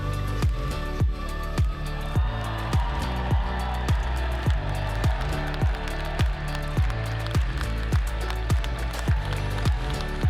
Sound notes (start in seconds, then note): 4.1 audience cheering